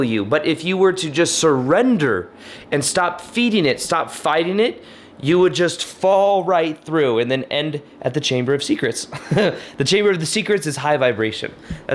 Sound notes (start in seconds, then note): 9.0 laughs